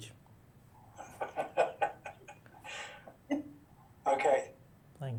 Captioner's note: laughing